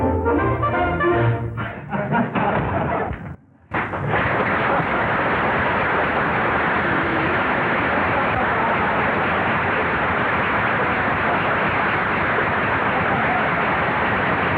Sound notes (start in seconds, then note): 3.7 applause